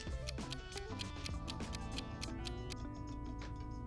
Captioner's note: timer ticking